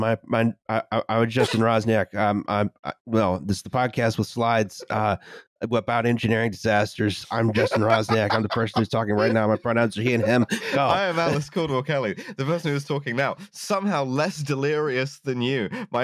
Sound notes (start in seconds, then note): 7.4 laughter; 10.5 quick breath